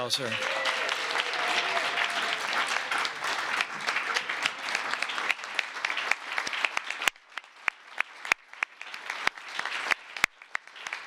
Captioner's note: applause